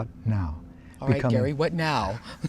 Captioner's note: laughs